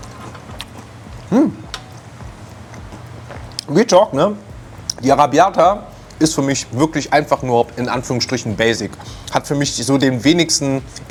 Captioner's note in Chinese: 闲聊